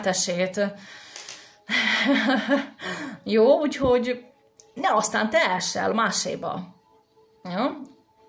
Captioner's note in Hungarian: Nevetés